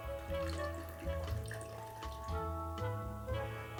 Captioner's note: water burbling